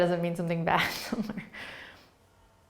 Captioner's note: laughing